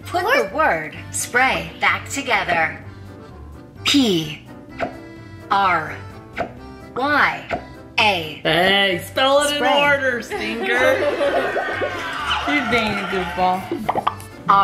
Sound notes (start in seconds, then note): 10.3 laughing